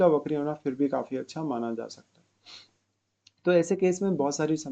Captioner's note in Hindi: नाक से की जाने वाली आवाज़